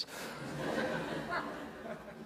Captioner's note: laughter